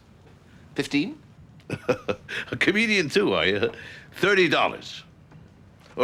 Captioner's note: laughs